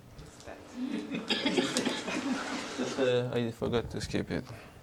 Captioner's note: indistinct conversation